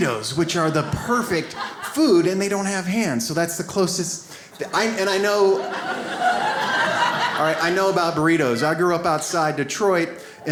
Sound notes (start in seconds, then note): 6.1 audience laughs